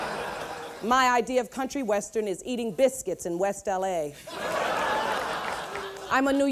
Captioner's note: laughter; laughter